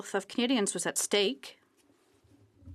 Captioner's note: speaking French